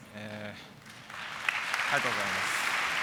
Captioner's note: applause